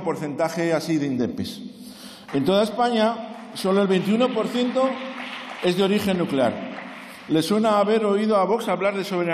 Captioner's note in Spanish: Aplausos